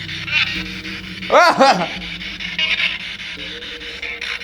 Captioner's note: disembodied voice laughs; laughs